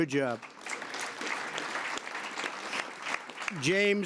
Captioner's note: applause